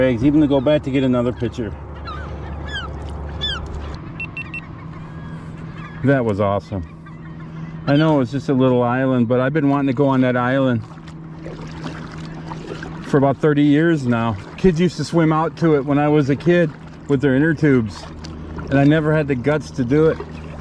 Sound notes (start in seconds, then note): 4.1 seagulls calling; 11.0 water splashing